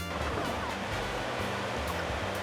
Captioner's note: swimming